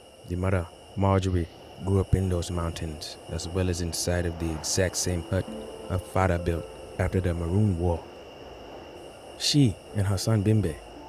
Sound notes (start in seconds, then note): 0.0 wind blows; 7.5 soft music playing; 8.4 wind howls